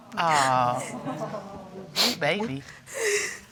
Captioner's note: sobbing continues